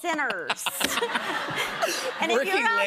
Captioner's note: laughter